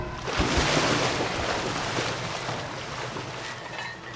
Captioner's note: water splashing; weights clanking